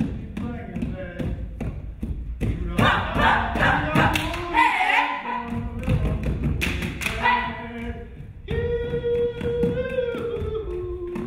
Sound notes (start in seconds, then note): 2.6 foot stomping drowns out singing